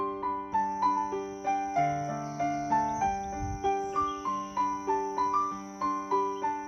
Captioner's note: cicadas chirping